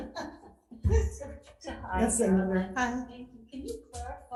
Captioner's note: faintly speaking